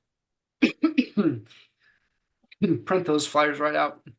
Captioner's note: coughing